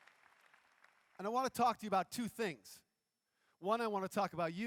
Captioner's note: applause�